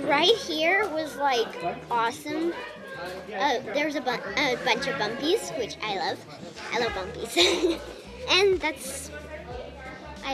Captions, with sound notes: - The ride here was like, awesome. There was a bunch of bumpies, which I love. I love bumpies. (laughs) And that's,